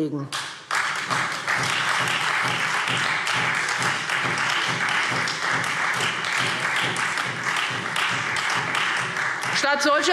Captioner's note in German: Beifall Freie Demokraten